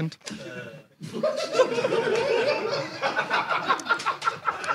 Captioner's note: audience laughs